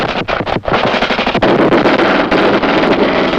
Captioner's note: soldier speaks in foreign language; guns fire